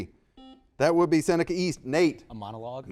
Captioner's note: buzzer dings